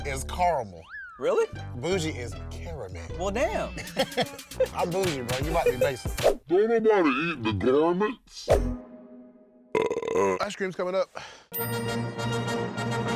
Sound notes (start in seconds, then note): 3.7 both laugh; 7.9 burps; 9.9 bell dings; 9.9 classical music